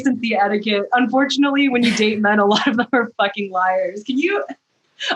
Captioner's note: laughter